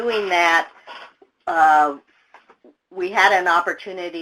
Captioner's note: chair creaks